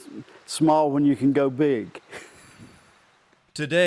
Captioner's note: laughing